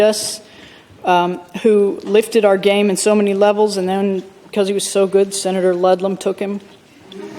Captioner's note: laughter